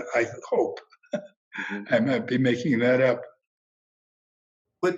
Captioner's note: chuckles